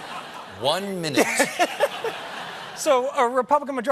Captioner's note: laughter